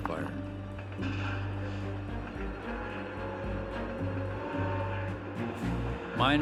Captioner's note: horn blaring